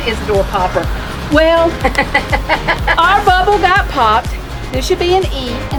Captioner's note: laughing